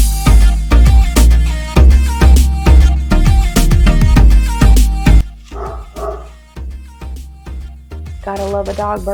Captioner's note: dog barking in background